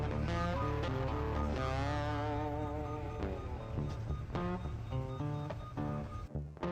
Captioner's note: machinery beeping; upbeat blues music